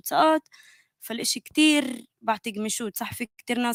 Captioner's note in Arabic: لغة أجنبية